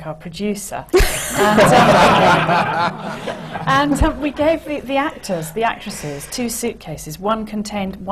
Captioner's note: laughter